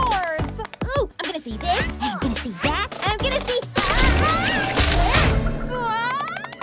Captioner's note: yells